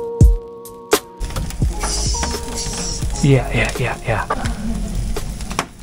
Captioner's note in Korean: 기름떨어지는 소리 듣는 중